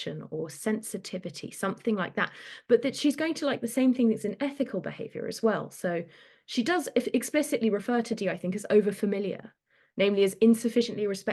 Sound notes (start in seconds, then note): none